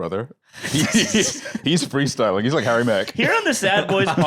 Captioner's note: laughs